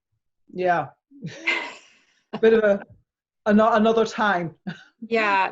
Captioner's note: chuckles